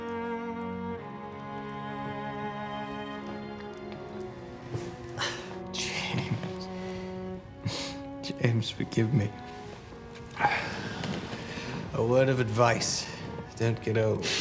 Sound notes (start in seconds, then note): 10.3 <i> gasps</i>